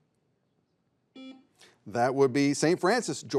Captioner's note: buzzer buzzes